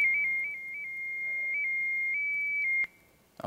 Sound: piercing tones; crackling

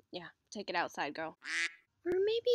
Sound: quack

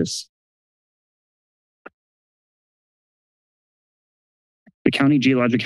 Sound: silence

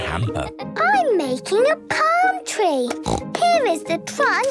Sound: snorts

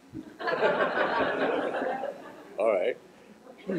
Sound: laughter

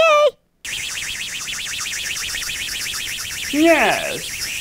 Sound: rocket engine

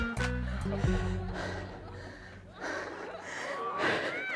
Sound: panting

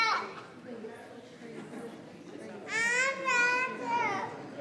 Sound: people chattering

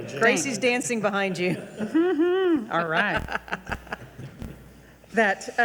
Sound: laughing

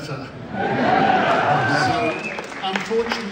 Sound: crowd cheers

